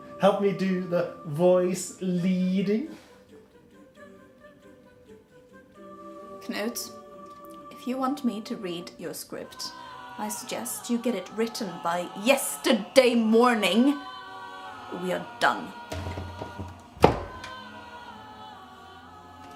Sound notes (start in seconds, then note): 15.9 door slams